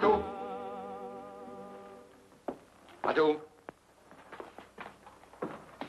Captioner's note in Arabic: يتحدث لغة أجنبية